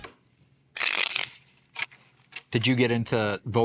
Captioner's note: cards snapping